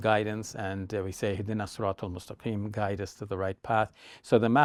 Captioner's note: speaking Arabic